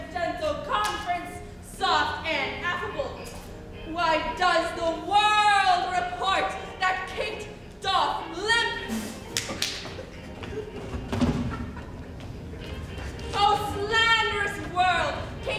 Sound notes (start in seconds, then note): 9.3 Grumio claps; 9.8 Katharina laughing